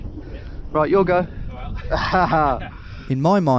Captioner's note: laughs